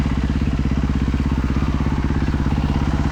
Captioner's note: engine revving